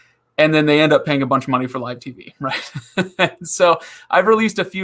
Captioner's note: laughing